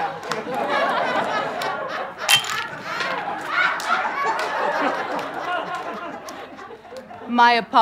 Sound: audience laughter

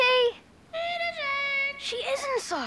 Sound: squawking

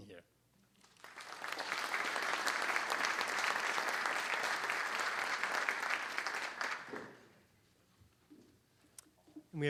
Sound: applause

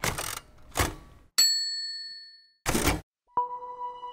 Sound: chiming; slow music

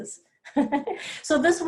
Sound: chuckles

